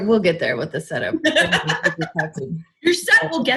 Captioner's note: laughs